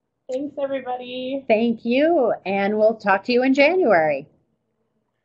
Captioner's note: voiceover